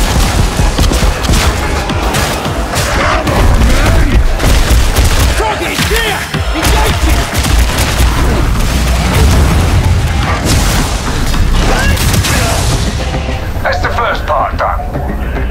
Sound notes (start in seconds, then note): 6.7 lasgun firing; 8.6 Psykers’ attack charges and explodes; 10.6 Electricity pulsates through Thunderhammer